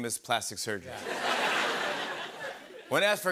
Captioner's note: laughter